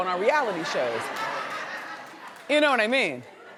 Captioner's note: audience laughs